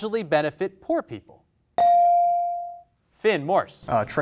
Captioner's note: bell rings